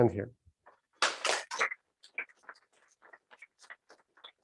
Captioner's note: applause